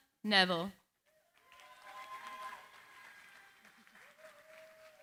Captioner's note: cheering, applause